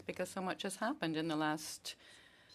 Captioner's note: speaking French